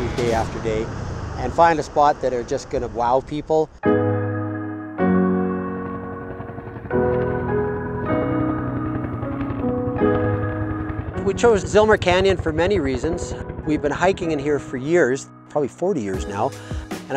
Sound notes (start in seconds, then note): 4.5 piano music; 6.7 helicopter flying